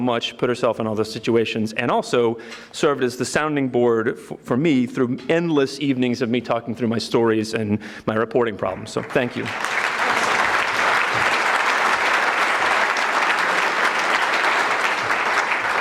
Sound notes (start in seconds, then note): 8.9 audience clapping